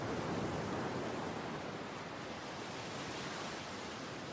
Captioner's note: waves splashing